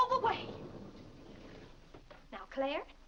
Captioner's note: doors sliding open